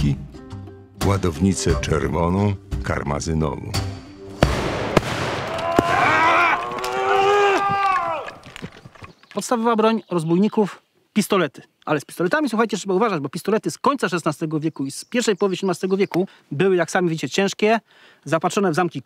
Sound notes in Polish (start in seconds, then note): 2.5 Aplauz